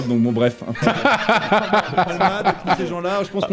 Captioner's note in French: rires